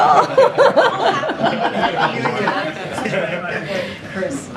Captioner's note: laughter